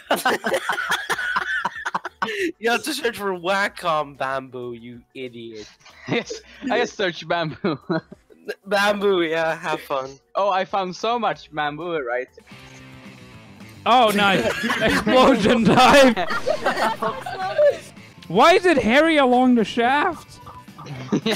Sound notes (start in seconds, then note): 0.0 hysterical laughter; 14.2 excessive laughter; 20.5 laughter